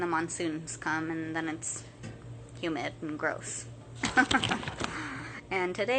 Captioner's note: laughing